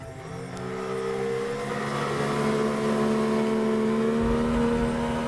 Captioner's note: boat engine roaring